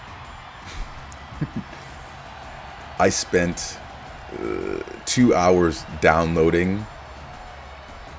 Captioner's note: laugh